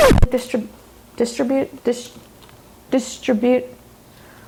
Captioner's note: record scratching; stutters